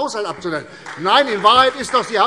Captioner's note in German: Beifall CDU und BÜNDNIS 90/DIE GRÜNEN